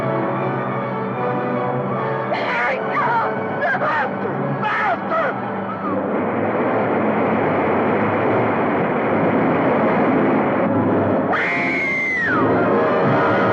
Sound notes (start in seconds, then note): 6.2 water roaring; 11.3 screaming